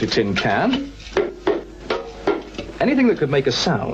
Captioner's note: tin can taps